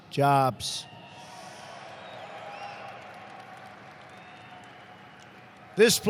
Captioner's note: applause